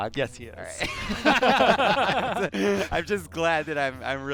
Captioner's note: laughter